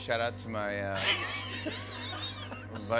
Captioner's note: laughs